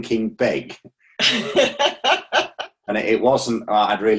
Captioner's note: laughing